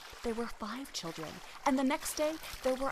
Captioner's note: river rustling